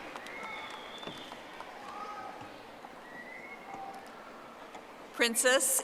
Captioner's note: audience applauding